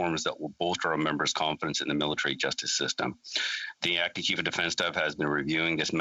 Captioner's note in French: voix de l'interprète